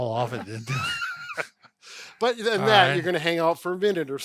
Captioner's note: laughs